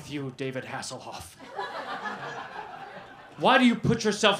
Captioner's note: laughter